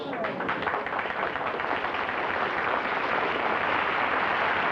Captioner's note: applause